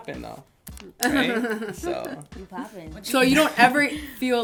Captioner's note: laughter